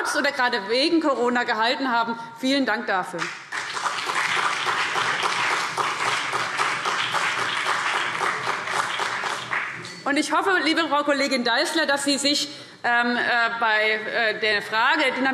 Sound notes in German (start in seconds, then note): 3.3 Beifall CDU und BÜNDNIS 90/DIE GRÜNEN